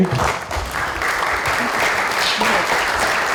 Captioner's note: applause